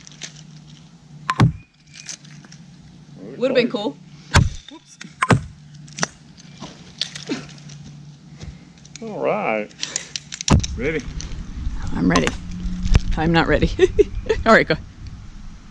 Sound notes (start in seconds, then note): 13.7 laughs